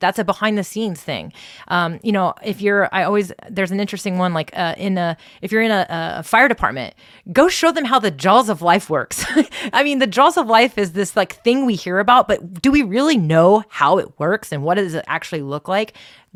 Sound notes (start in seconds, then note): 9.3 laughs